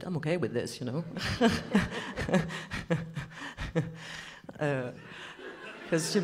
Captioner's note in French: rires